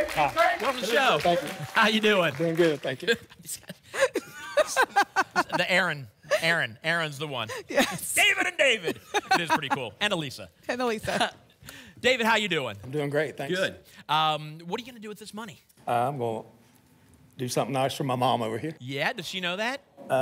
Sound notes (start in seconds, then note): 3.0 laughs